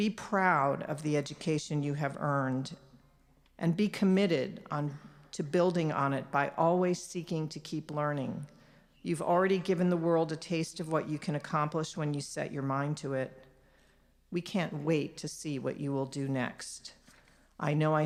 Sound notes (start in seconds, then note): none